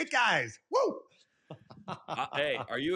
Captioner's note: laughs